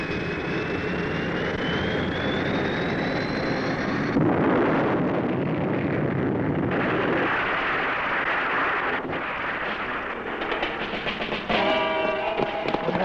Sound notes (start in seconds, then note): 4.0 plane exploding; 10.5 tense music